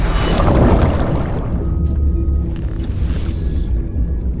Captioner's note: water bubbling